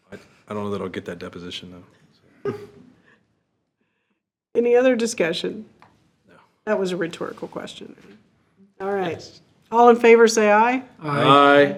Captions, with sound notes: I don't know that I'll get that deposition though. (group chuckles) - Any other discussion? - No. - That was a rhetorical question. All right, all in favor say aye. - Aye. - Aye.